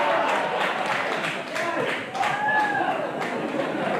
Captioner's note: audience applauds